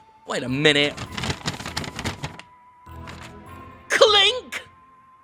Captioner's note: paper crumpling